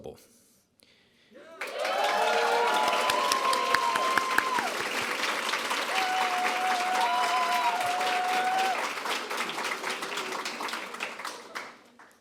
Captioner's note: applause